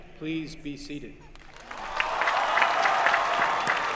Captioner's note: applause